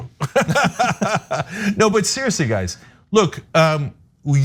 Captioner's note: laugh